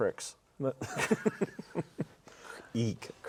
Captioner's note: everyone laughs